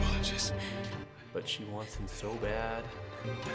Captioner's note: Daphne gasping; dramatic music